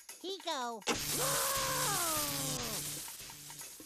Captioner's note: Sylvester screaming